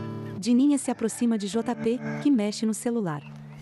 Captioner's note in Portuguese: Pássaros; Galo cantando